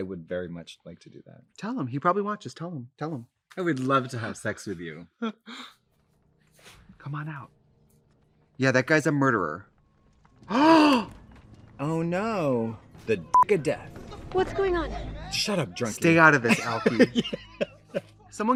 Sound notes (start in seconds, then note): 10.5 Trixie gasps; 13.3 beep; 16.4 laughs